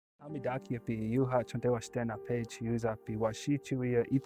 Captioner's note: speaking Dakota